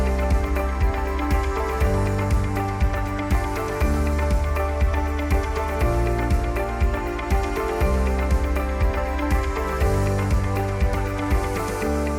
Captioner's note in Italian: Applauso